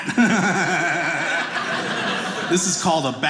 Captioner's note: audience laughing